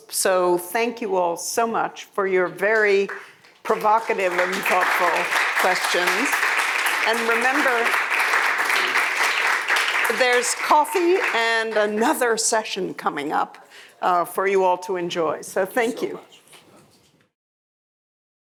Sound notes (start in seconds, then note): 6.0 attendees applauding; 8.5 attendees applauding